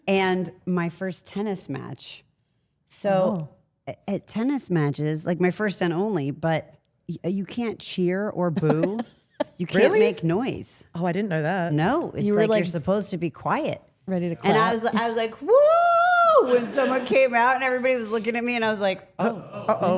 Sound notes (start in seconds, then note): 8.5 laughs